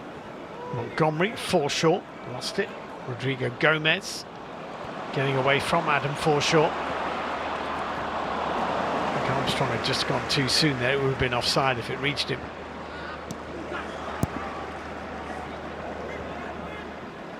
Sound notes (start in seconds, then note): 10.4 audience oohs